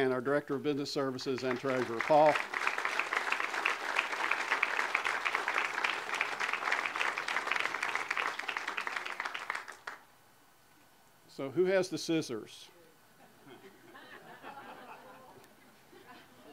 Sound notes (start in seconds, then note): 1.4 audience applause; 13.5 audience laughter